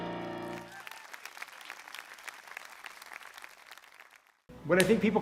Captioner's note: applause